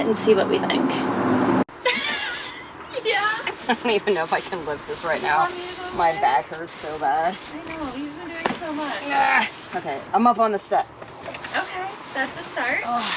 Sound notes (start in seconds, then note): 1.8 laughing